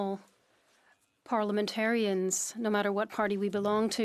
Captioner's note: speaking French